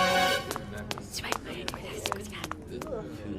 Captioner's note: Courtroom audience and Huggy whispering